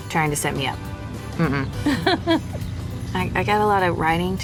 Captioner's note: ellie laughs